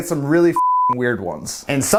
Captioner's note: beep